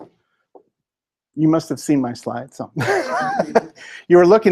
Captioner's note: laughter